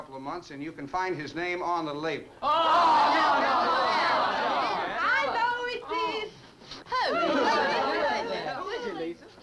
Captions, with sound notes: and you can find his name on the label. (party goers shouting) - I know who it is! - Who? (party goers chattering) - Who is it, Lisa?